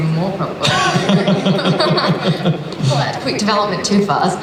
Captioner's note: laughing